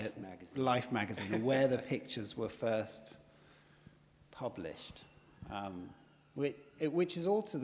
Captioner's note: laughs